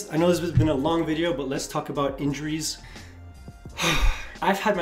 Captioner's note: exhale